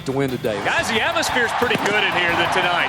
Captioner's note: voiceover